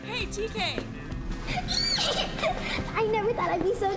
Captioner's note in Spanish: chillidos